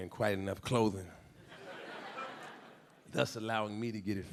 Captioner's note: audience laughing